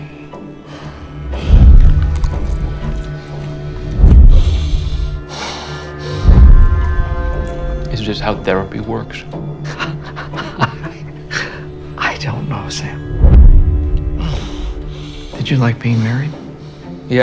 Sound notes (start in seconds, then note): 9.6 chuckles